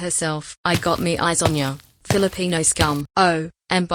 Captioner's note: footsteps